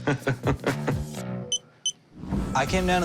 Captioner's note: laughs; beeps